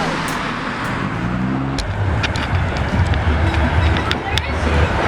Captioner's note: car rumbling